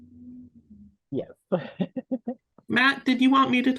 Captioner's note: laughs